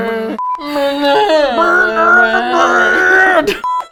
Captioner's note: groans; both laugh